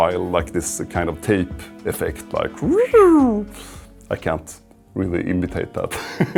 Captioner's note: laughs